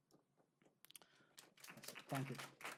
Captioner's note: applause